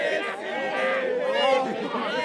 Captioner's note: cheering